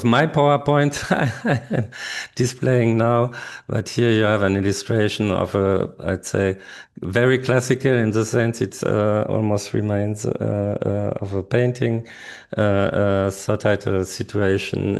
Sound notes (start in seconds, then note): 1.0 laughs